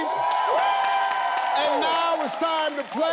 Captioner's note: audience cheering